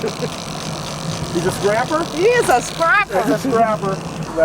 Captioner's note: laughter